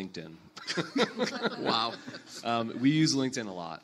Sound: panelists laugh

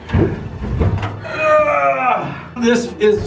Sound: groaning

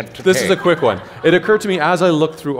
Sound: laughter

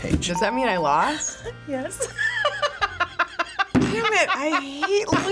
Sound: laughs

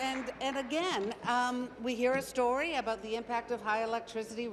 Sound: applause

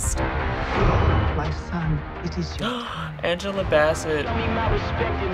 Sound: gasps

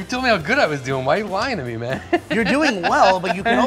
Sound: laughs

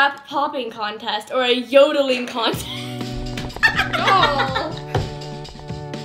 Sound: laughs heartily

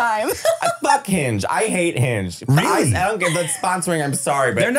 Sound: laughing

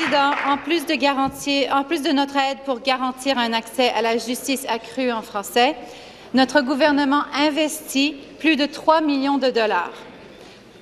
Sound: applause

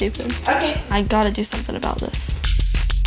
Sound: laughing; foot steps

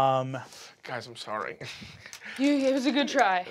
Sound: chuckles

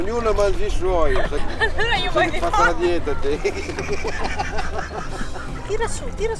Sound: laughing

